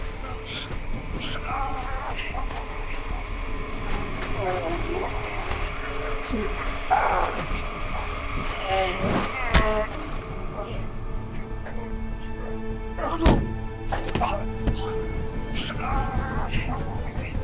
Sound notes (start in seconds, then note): 2.3 music intensifies; 9.1 thud; 13.2 thud